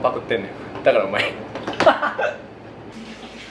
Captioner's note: laughter